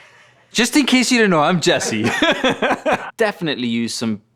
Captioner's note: laughs